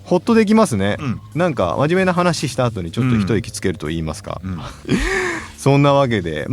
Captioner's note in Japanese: 笑い